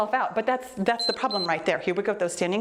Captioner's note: timer beeps